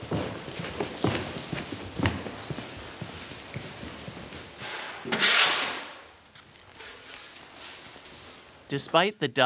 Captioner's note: dumping seed and scooping